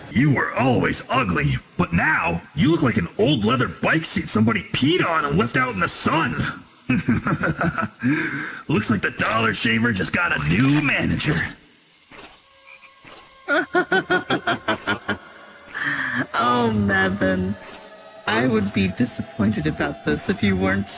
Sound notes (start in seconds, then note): 6.8 laughs; 13.5 evil laugh